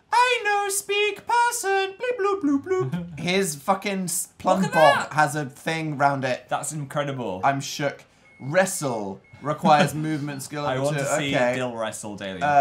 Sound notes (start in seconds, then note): 2.5 laughs